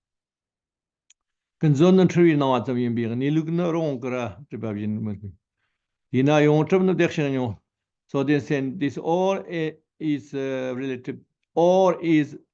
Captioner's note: tibetan